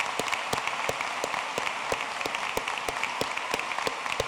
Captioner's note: applause